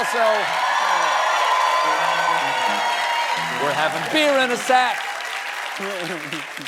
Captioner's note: cheering